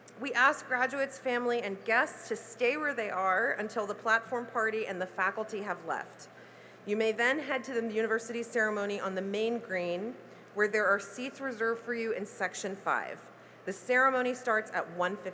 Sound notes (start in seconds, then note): none